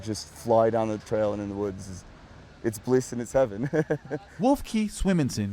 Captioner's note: laughs